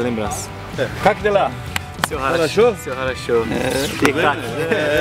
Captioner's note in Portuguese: conversando em ucraniano